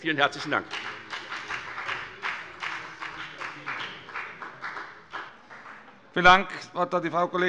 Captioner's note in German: Beifall bei der FDP